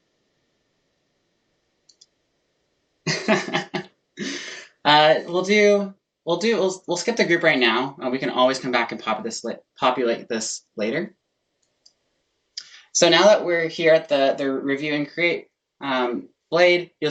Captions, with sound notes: [laughing] We'll skip the group right now: We can always come back and populate this later. So now that we're here at the "Review + create" place,